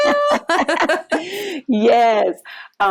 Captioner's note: laughter